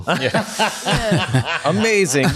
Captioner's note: laughing